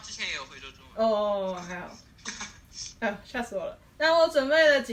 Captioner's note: laugh